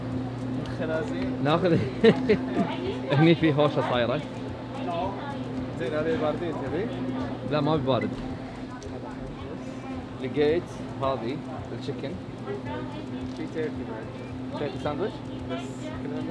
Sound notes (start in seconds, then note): 1.7 laughter; 5.8 people talking